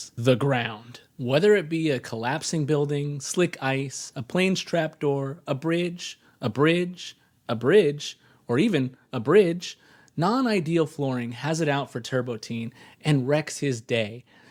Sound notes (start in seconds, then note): none